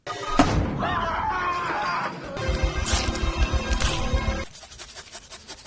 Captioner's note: suspenseful music; man yelling; suspenseful music; people panting